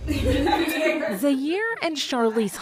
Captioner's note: group laughing